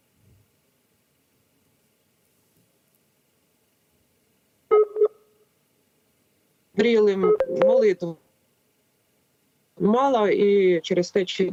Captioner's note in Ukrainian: поміхи